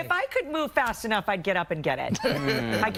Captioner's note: laughter